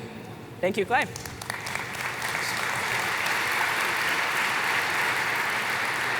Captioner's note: applause